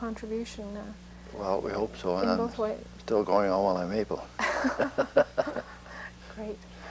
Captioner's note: laughter